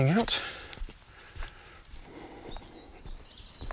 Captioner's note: heavy breathing